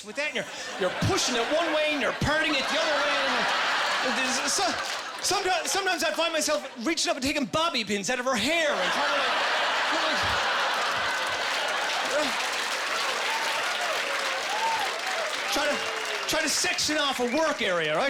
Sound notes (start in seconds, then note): 3.3 laughing; 10.3 laughing and applause